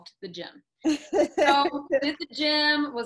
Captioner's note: laughs